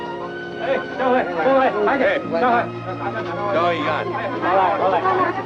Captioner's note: speaks foreign language